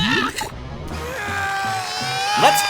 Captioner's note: grunting